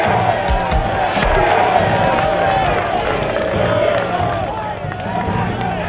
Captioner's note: crowd cheering